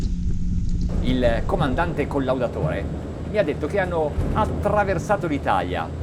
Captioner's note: speaking in Italian